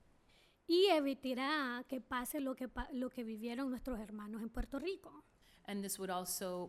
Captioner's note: speaking spanish